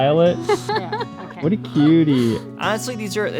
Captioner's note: laughs